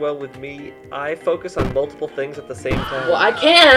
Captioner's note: Wilhelm scream